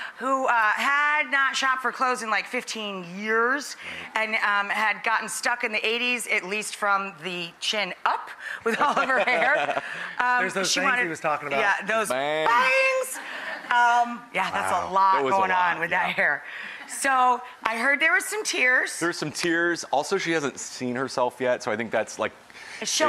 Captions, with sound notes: who had not shopped for clothes in like 15 years and had gotten stuck in the 80's at least from the chin up with all of her hair. There's those bangs he was talking about. Yeah those bangs. (audience laughs) Yeah that's a lot goin' on with that hair. So I heard there was some tears. There were some tears, also she hasn't seen herself yet so I think that's like